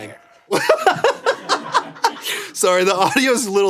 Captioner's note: Anthony laughs